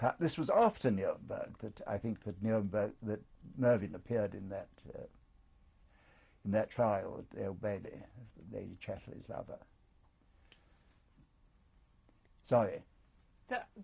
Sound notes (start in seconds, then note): 9.6 pauses for 3 seconds